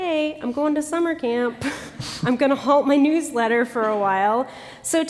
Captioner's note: laughter